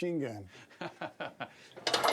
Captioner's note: laughing; rattling